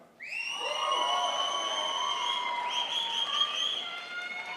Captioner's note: crowd applauds